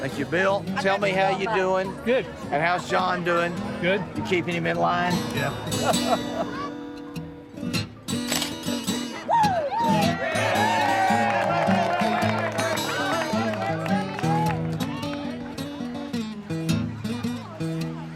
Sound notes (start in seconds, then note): 9.2 cheering